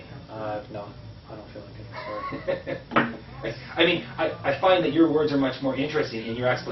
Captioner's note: laughs